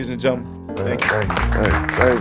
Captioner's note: audience applauding